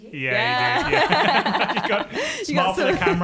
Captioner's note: laughs